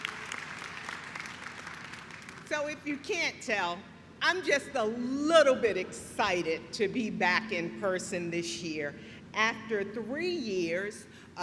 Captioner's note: applause